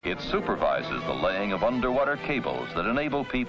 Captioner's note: voiceover